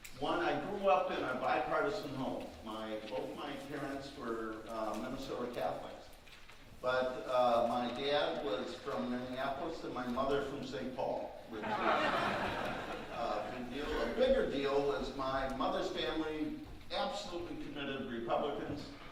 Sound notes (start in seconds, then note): 11.6 audience laughing